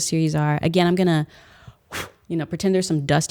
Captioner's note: exhales